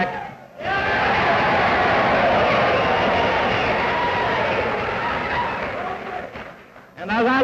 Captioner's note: cheers, applause